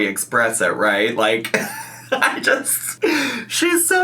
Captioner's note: laughs